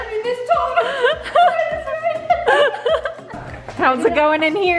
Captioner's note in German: lacht